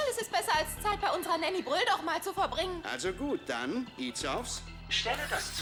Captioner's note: none